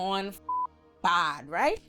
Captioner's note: beep